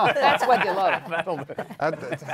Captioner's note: laughter